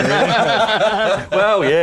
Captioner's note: laughter